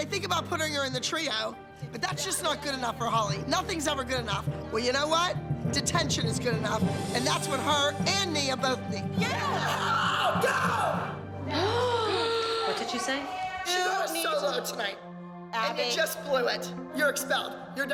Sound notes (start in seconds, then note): 11.2 gasps